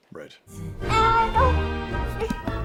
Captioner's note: babbles